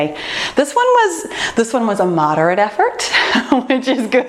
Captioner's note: laughs